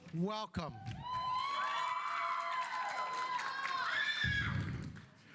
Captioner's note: audience applauding